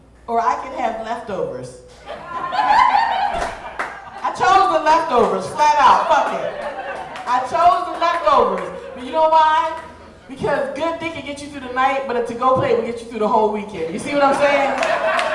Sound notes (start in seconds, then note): 2.6 audience laughing